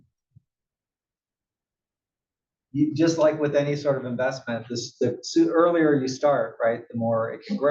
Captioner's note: cough